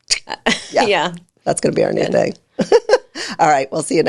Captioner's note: laughs